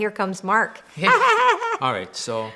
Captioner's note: woman laughs